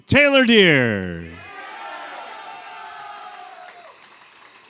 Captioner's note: cheers and applause